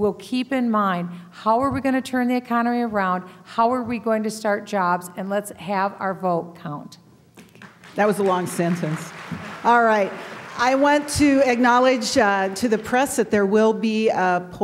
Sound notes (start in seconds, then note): 7.4 applause